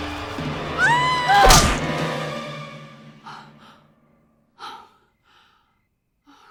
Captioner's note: Rebecca gasps; dramatic music; screams; shovel thuds